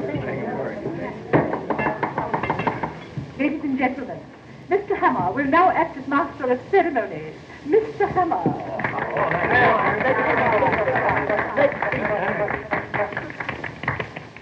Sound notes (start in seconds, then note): 1.3 mrs. potter knocking on table; 8.6 all cheering excitedly